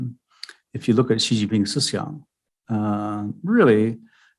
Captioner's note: speaking mandarin